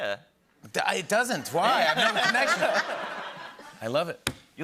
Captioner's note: laughter